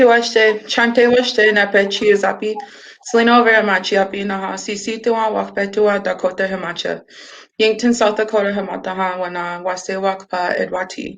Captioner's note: speaking Dakota